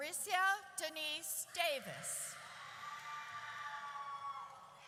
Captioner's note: audience cheers